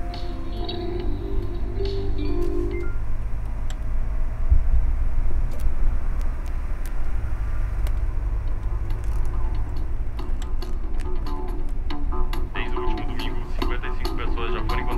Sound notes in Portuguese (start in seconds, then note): 3.7 barulho do carro; 12.5 áudio do rádio